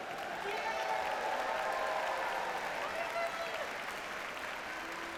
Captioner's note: audience cheers and applauds